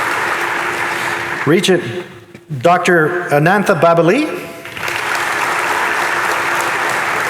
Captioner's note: audience applauding